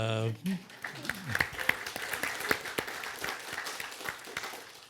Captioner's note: audience applauds